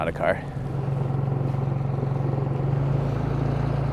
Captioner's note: engine buzzing